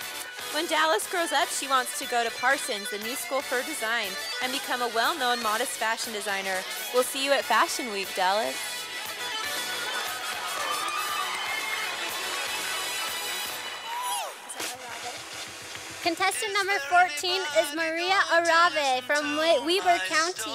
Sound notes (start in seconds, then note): 9.1 sound of cheering and applause from audience; 14.1 quietly